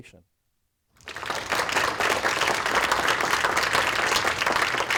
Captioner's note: applause